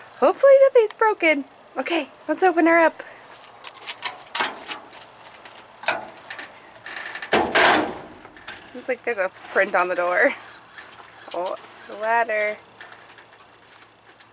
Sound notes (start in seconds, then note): 6.8 metal handle jangling